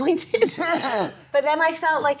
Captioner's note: laughing